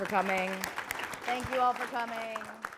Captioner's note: applause